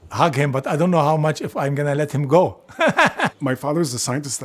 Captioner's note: laugh